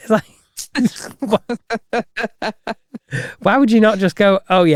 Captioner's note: laughing